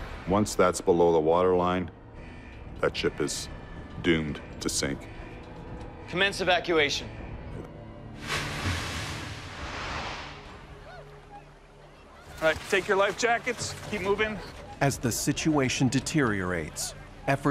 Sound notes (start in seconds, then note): 8.2 water splashes; 11.0 chattering